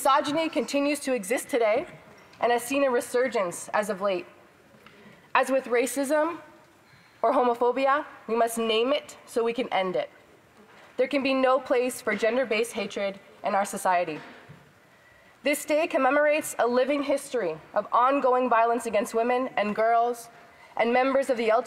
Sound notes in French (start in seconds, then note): 4.0 voix de l'interprète